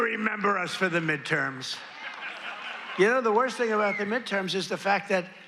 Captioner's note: applause